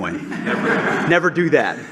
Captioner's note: laughter